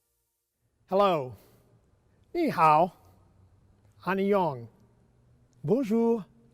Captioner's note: speaks in foreign language